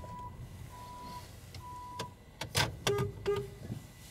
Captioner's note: machinery beeping; horn honks